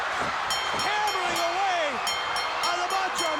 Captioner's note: bell ringing